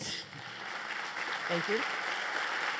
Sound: applause

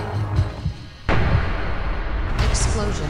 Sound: boom

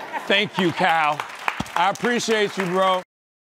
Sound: laughter

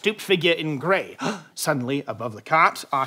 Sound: gasps

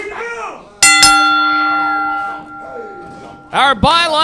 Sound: bell ringing

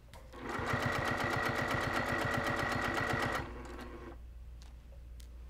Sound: sewing machine noises

